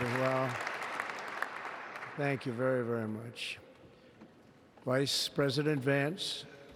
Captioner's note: applause